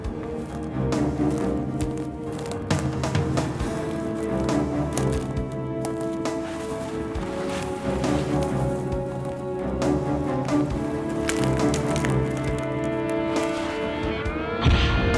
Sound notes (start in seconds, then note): 1.0 footsteps crunching; 1.0 suspenseful music continues; 10.5 footsteps crunching; 10.5 suspenseful music continues; 14.9 dramatic music